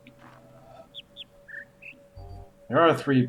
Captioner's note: bird chirps high-high-low-mid